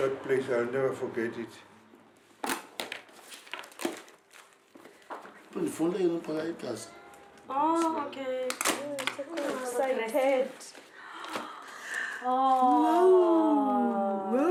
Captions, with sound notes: That place, I'll never forget it. [SPEAKING XHOSA] Excited!